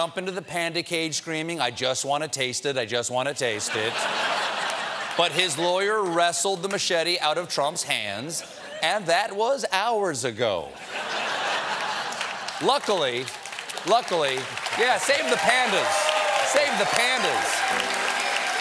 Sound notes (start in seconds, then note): 3.6 laughter; 10.7 laughter; 11.6 applause